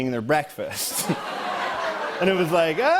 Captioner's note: laughter